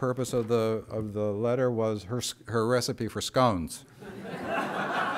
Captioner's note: laughter